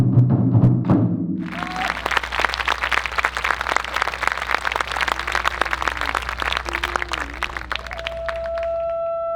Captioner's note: applause